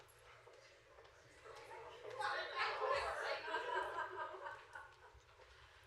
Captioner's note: chatter. Laughter